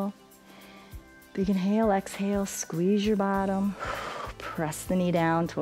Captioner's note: exhales